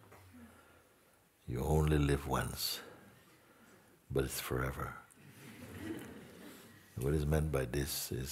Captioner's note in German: Lachen